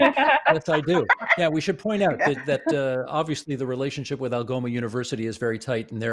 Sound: laughter

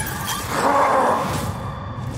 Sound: growl

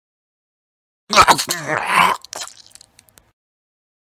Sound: sound of male death

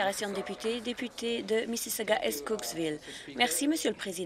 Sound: some Applause

